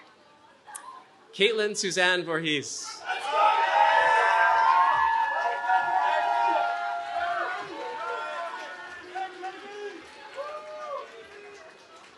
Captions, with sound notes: Kaitlyn Suzanne Vorhies. [CHEERING]